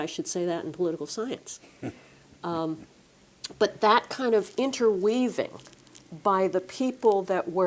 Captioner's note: laugh